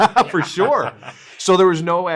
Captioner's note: both laugh